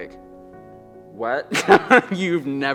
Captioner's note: laughs